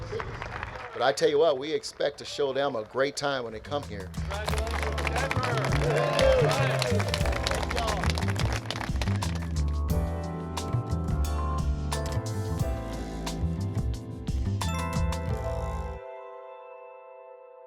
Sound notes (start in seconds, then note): 0.0 audience applauding; 6.2 audience applauding; 6.2 audience cheering; 8.7 relaxing music